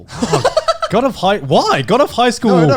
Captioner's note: laughs